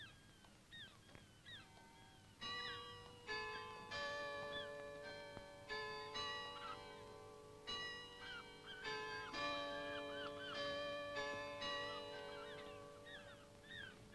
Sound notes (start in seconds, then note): 2.1 bells ringing